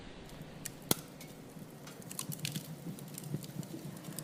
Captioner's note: fire crackling, underlying